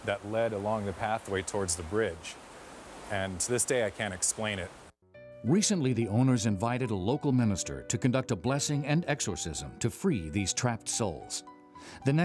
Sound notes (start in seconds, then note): 5.5 voiceover